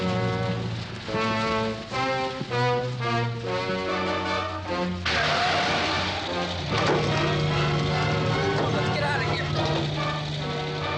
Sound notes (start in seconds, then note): 4.9 tires screech